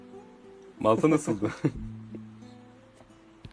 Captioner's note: laughs